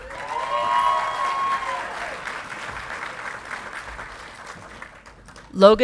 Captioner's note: audience clapping and cheering